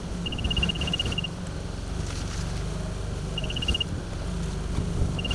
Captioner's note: fork truck beeping